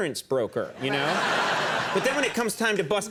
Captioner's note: audience laughing